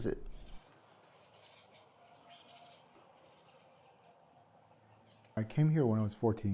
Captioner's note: birds chirping